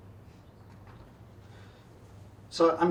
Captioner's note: inhales